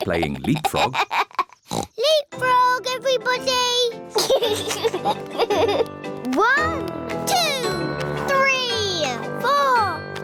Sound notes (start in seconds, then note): 0.0 laughs; 1.7 oinks; 5.3 all laugh